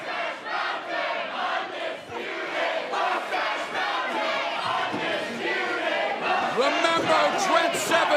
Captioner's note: fans chanting